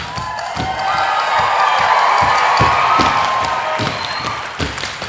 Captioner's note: audience applauding and cheering